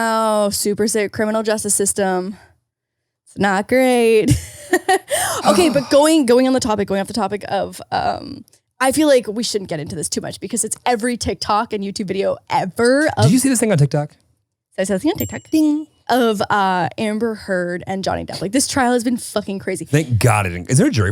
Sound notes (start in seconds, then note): 15.1 bell dings